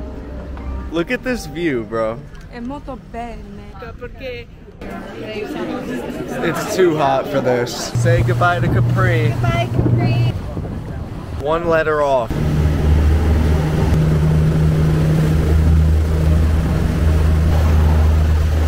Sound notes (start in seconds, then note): 4.0 speaking in foreign language; 12.9 boat engine revving